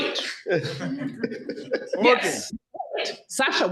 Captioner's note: people laughing